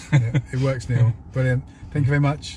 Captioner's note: laughs